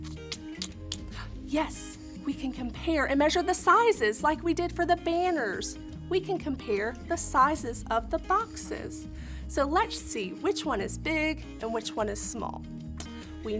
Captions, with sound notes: [tongue clicking] [gasps] Yes! We can compare and measure the sizes like we did for the banners. We can compare the sizes of the boxes. So let's see which one is big and which one is small.